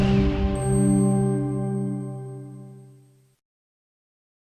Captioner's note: chimes ringing